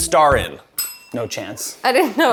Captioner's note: bell rings